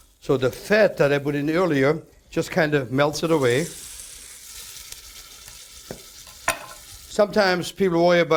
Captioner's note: sizzling